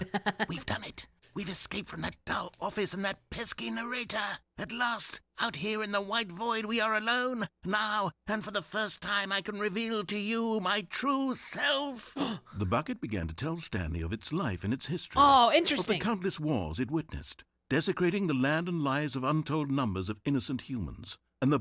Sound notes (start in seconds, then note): 0.0 laughs; 12.2 gasps